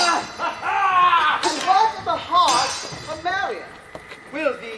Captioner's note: swords clash